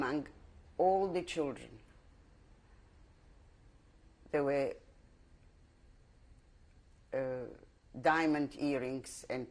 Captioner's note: pauses for 3 seconds